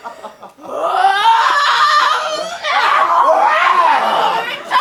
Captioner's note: Algernon yells